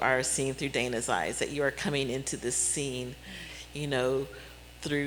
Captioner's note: none